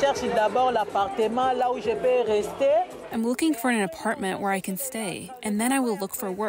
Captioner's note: through translator